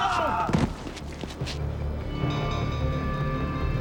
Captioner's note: thud